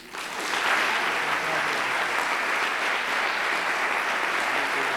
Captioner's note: applause